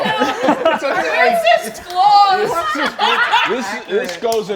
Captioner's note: all laughing